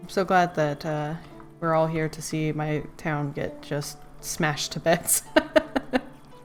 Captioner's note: laughs